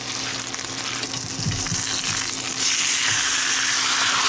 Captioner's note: meat sizzling